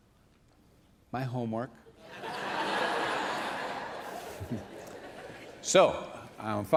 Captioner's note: laughter